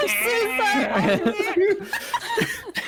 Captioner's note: giggles